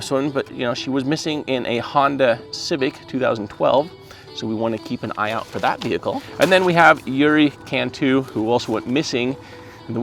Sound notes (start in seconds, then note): none